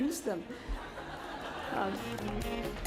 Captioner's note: laughter; jazz music